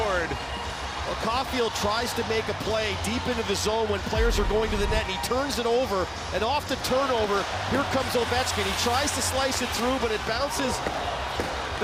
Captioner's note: cheering